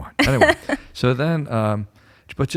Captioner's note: laughter